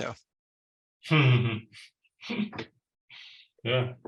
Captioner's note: laughs